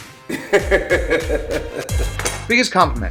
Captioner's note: laughs